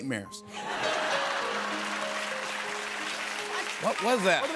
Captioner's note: laughter and applause